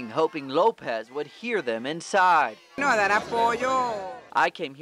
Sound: chanting

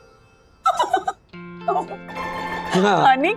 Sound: laughter

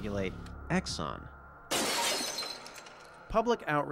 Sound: glass shatters

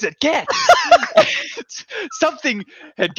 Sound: both laughing

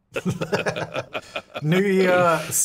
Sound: laughing

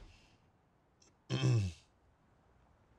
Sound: clears throat

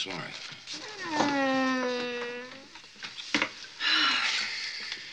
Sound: whining; Mother Parker sighing

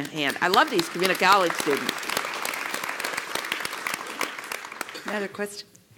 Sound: applause

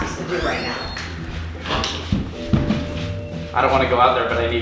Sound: door opens and closes

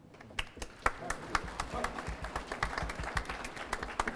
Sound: applause

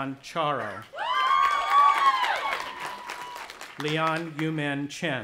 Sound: audience applauding and cheering

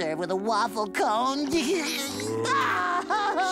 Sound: crying

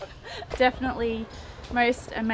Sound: laughter

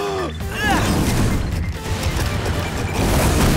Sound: screaming

